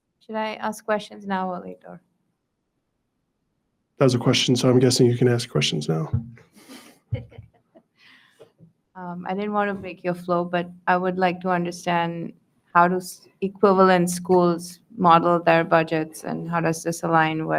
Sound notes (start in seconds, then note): 6.6 board member chuckles